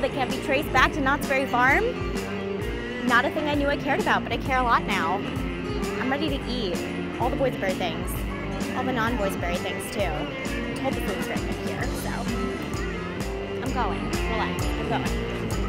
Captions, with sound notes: that can't be traced back to Knott's Berry Farm. Not a thing I knew I cared about, but I care a lot now. I'm ready to eat all the boysenberry things, all the non boysenberry things too. (speaking away from mic) since we're here so. I'm going, relax, I'm going.